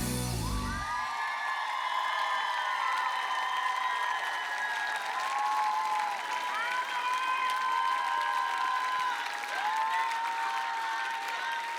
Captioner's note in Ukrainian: оплески